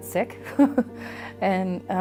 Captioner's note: chuckles